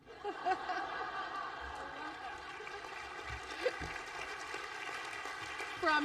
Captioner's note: laughter; applause